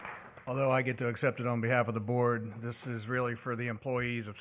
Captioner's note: applause